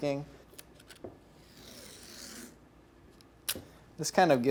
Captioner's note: tape pulling